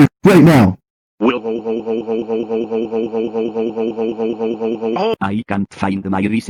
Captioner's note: laughs